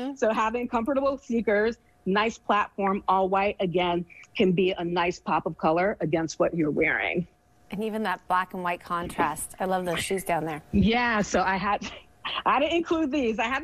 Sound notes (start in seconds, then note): 11.7 snickers